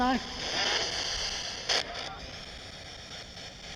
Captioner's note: spirit box voice